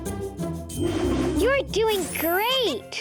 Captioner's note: air whooshing; planet laughing and clinking